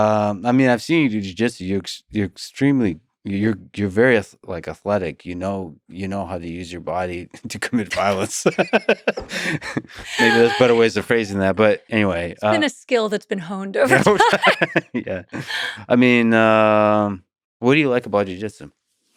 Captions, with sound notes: - I mean, I've seen you do jiu-jitsu. You're extremely, you're very like athletic. You know how to use your body to commit violence. (both laughing) Maybe there's better ways of phrasing that, but anyway. - It's been a skill that's been honed over time. - (laughs) Yeah. I mean, what do you like about jiu-jitsu?